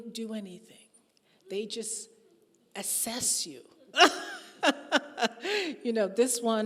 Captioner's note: laughing